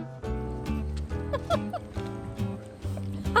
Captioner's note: laughing